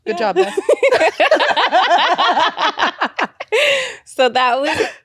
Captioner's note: both laughing